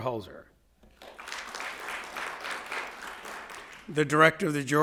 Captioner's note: audience applauding